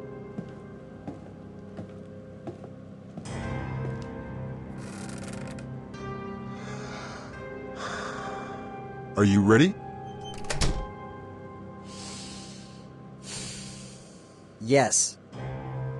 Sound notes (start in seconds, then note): 0.0 suspenseful Music; 0.3 footsteps; 4.8 creak; 7.7 inhale; 7.8 exhale; 10.2 door closing; 13.2 inhale; 13.2 exhale